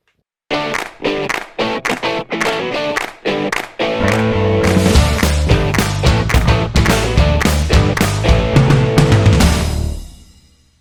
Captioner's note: claps